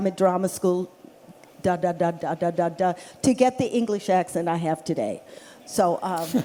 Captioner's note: laughter